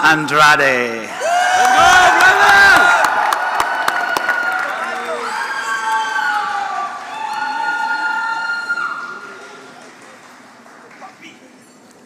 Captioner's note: applause